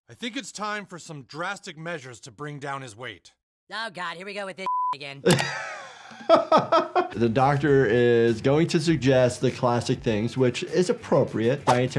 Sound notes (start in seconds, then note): 4.6 beep; 5.2 laughs